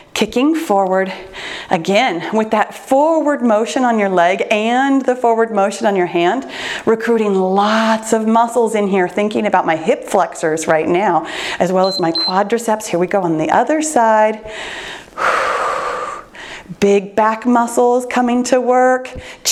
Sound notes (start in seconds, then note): 11.8 timer beeps; 14.4 breathes deeply